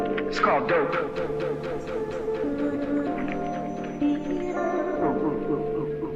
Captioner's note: echoing